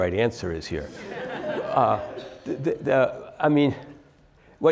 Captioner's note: laugh